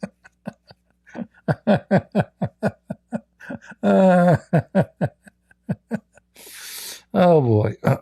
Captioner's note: Ketawa